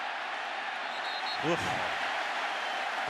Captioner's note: cheering